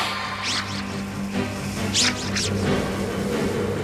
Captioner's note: SFX: magic sounds